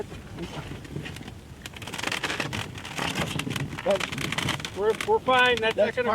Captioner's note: canoe grinding on concrete